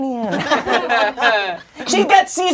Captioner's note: crowd laughing